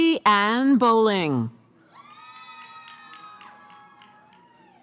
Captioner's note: cheering